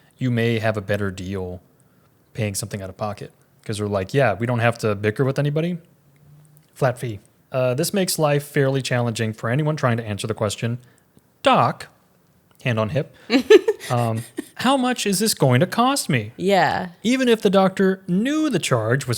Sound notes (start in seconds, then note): 13.3 laughs